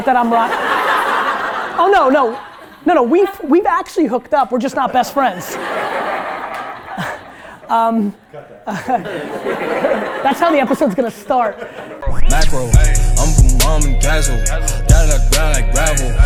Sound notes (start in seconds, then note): 0.1 group laughter; 4.8 group laughter